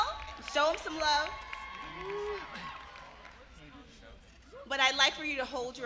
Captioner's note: applause